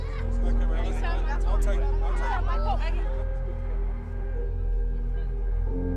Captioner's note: people chattering faintly; melancholy music